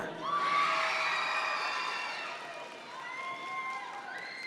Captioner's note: audience members cheer